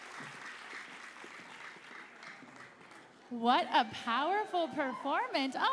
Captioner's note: cheering and applause